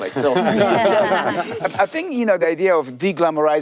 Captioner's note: panelists laugh